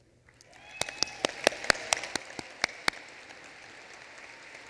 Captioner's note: applause